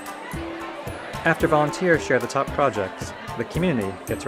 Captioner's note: voiceover